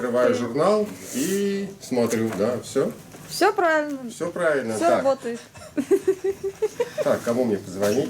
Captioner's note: laughter